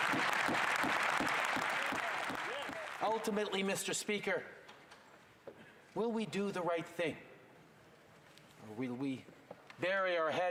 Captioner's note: cheers and Applause